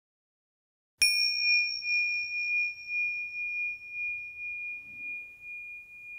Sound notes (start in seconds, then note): 1.0 bell chiming